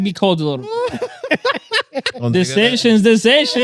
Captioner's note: laughing